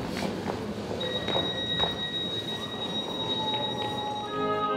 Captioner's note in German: lautes Piepen der S-Bahn-Türen